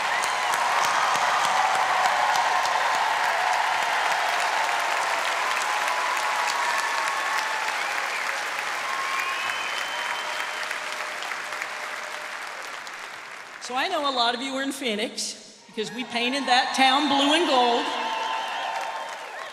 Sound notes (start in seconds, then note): 6.5 cheers and applause